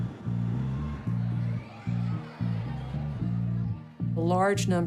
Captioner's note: indistinct chatter